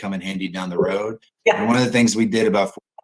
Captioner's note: laughs